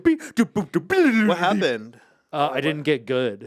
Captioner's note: Ian continues to hum